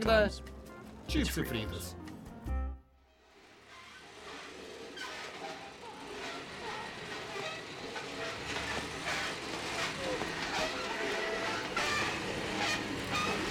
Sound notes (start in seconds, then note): 2.7 metal creaki